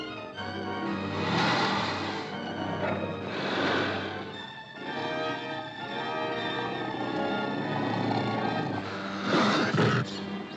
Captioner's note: suspenseful music; tiger growling; dramatic ominous music